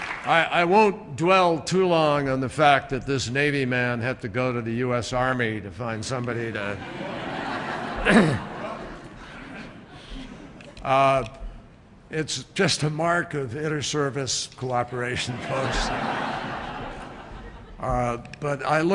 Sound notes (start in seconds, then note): 0.0 applause; 6.7 laughter; 17.3 laughter